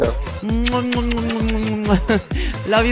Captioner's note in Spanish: Kisses